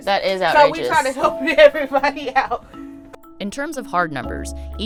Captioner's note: laughs